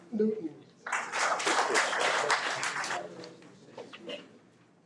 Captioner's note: audience applauding